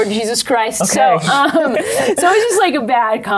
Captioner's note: laughs